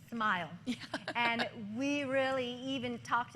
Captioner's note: laughter